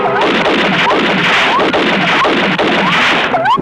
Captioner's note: gun firing